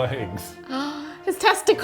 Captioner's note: gasping